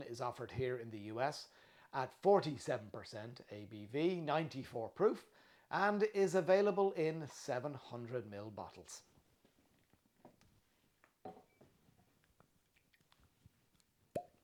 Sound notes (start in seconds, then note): 11.2 glass taps